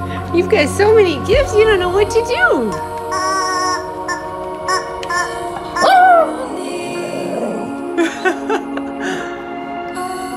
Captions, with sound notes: You've got so many gifts, you don't know what to do! [honking] [honking] [dog howling] [laughing]